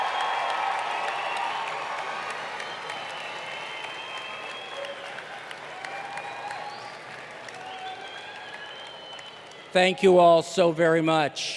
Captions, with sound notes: [APPLAUSE] THE CHILDREN, AND ALL OF THE FRIENDS OF THE CLASS OF 2018.